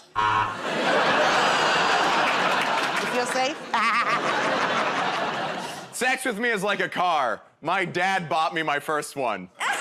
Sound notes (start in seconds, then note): 0.6 laughter; 4.7 laughs